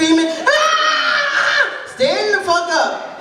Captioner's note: screaming